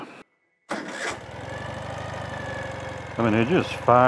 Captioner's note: engine starting